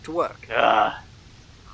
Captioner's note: groan